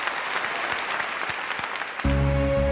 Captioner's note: cheering and applause